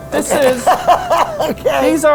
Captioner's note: laughs